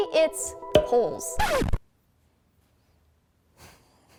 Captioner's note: record scratch